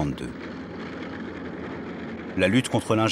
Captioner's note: tank noises